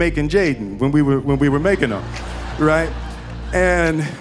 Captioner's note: audience laughing